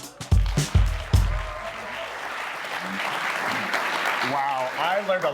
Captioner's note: audience clapping